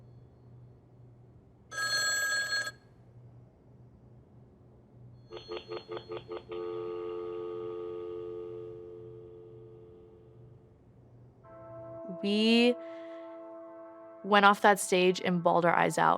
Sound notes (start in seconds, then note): 1.7 phone rings; 5.1 line busy